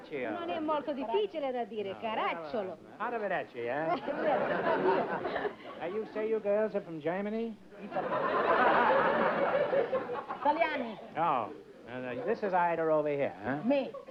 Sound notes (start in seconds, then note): 0.2 speaking italian; 4.0 speaking italian; 7.8 laughter